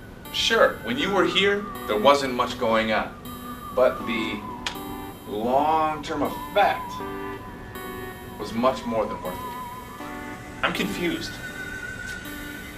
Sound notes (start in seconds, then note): 4.6 slaps hands together